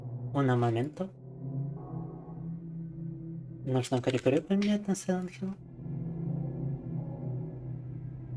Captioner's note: speaking in foreign language